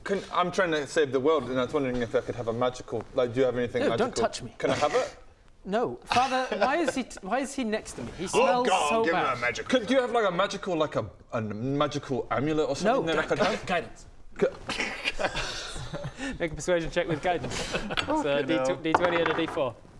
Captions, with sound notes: can I'm trying to save the world and I was wondering if I could have a magical like - do you have anything magical? - eww don't touch me Can I have it? No, father why is he why is he next to me? - Oh go on give me a magic - He smells so bad do you have like a magical like a a magical amulet or - something I could have? - No guidance *laughs* Make a persuasion check with guidance - so d20 add a d4 - f***ing hell